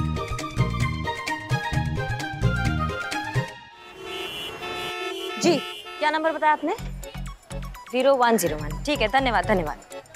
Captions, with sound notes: [comical music] [traffic noises] Yes, what was the number you said? 0101. Okay, thank you.